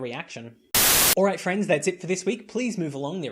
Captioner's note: static